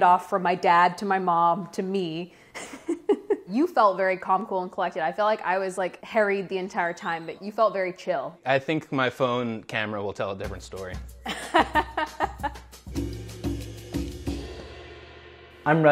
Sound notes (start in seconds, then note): 2.6 laughs; 11.2 they laugh; 12.0 jazzy drum music